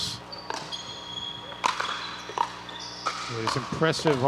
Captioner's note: ball bouncing